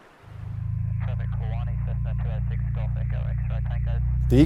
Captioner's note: engine whirring